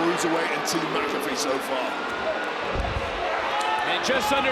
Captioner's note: crowd boos